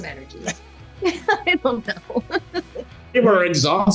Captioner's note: laughing